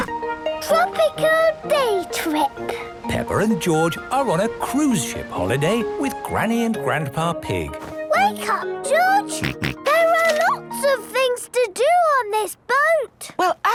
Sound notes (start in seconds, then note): 9.4 George snorts